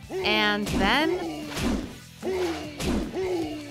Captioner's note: characters grunting